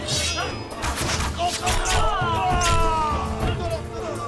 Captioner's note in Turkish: Ok atma sesleri; İnilti sesleri